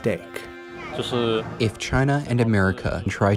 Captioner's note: speaking foreign language